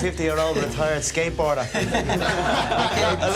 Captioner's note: laughter